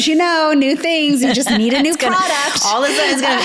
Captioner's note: laughs